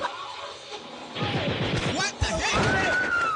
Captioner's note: gun shots